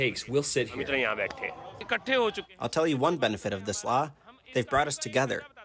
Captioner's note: through translator